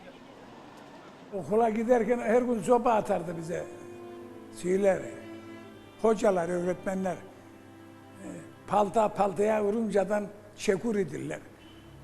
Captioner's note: in Turkish